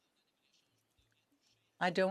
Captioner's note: speaking French